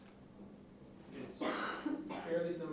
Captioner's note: person coughing